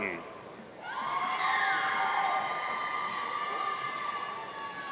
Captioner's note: audience cheering